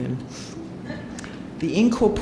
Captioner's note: audience member laughing